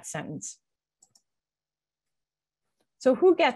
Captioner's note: mouse clicks